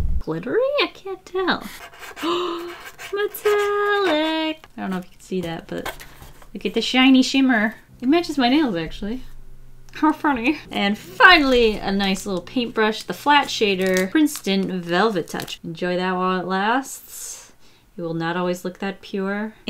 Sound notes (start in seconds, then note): 1.7 gasps